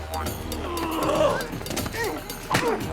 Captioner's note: groaning